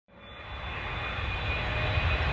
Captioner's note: loud airplane noise